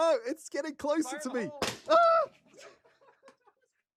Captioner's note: yelps